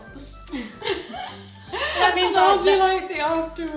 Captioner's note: both laughing